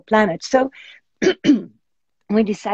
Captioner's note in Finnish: Coughs